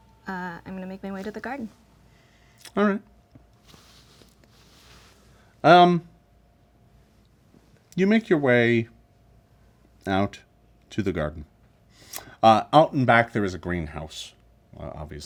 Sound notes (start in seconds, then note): none